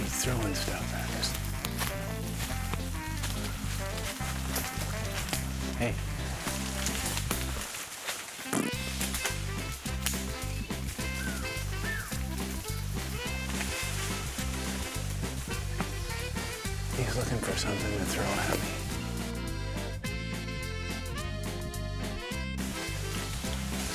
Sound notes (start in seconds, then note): 8.5 makes comedic raspberry sound; 11.3 comedic music playing; 20.4 comedic music playing